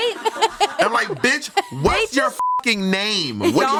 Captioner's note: everyone laughs; beep